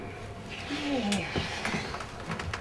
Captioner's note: sighs